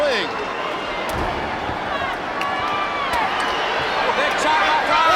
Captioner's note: footsteps plodding; blows thudding